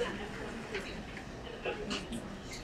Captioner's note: speaking away from mic